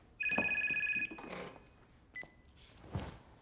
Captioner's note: phone ringing